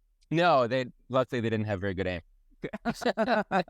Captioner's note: laugh